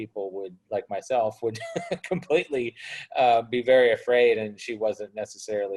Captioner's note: laughs